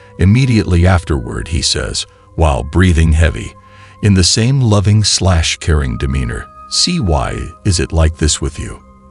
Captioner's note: breathing heavy